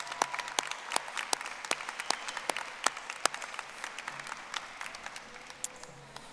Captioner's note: audience applauding